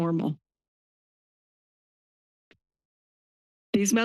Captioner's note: pause